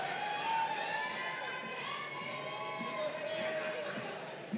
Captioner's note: crowd cheering